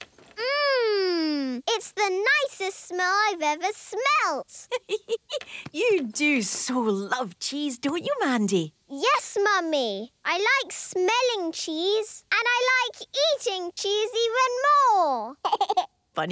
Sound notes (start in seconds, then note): 4.6 giggling